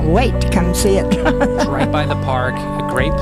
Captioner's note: laughing